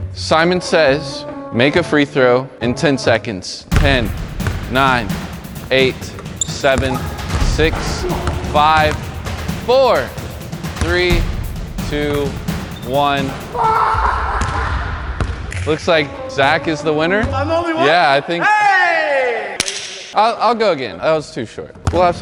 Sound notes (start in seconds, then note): 13.8 laughs